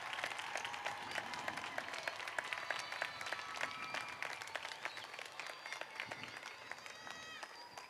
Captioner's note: applauding and cheering